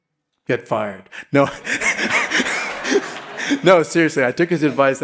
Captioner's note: all laughing